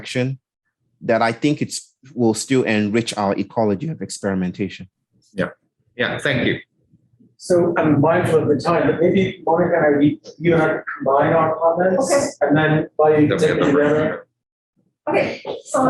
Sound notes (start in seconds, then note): 8.8 indistinct conversation; 12.3 indistinct conversation